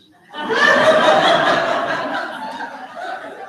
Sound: audience laughs

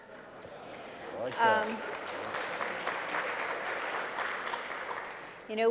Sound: applause

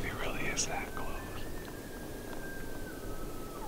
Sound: elk bugling

